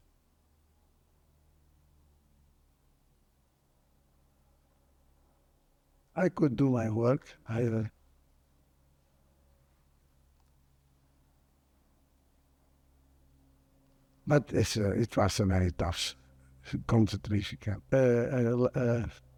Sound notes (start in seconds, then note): 0.0 pauses 6 seconds; 7.9 pauses 6 seconds; 17.9 mumbling